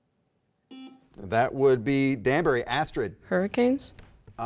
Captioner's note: button beeping